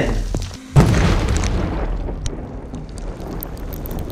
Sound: explosion

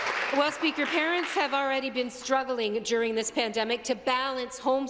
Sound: applause

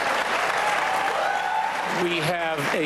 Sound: cheering and applause

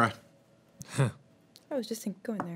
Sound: chuckling

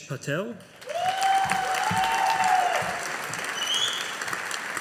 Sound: audience applauding

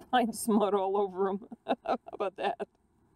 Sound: laughs

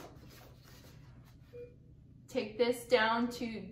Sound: beeping

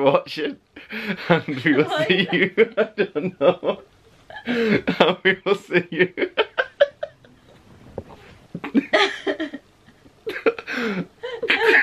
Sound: laughing

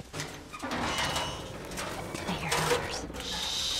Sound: turnstile creaking

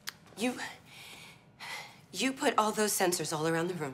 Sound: none

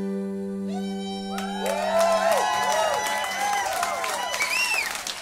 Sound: crowd cheering

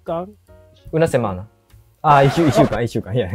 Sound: Spanish

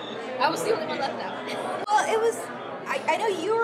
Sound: chuckles

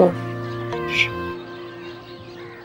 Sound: shushing

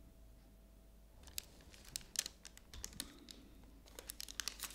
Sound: rustling

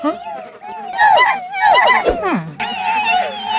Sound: happy voices cheering

